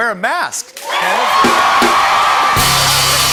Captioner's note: cheers and applause